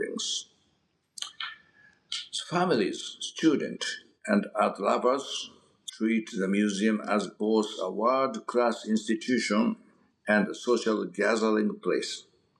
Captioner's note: mouth smack